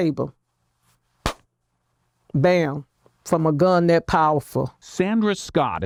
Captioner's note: claps hands